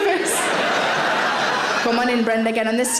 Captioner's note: audience laughing